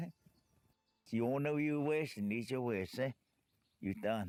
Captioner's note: Spoken Cherokee